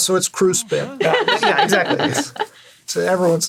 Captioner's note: chuckles